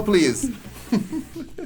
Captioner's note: laughs